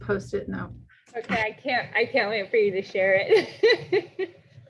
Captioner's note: laughs